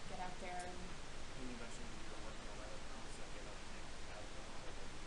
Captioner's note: man speaking